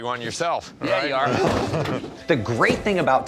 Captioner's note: chuckles